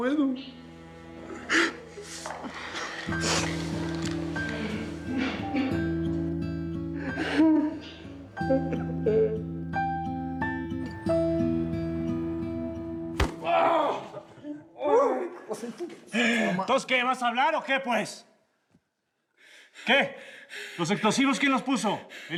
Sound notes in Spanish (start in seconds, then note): 0.0 sollozos; 13.3 quejido